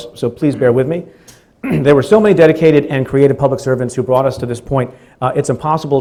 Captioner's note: clears throat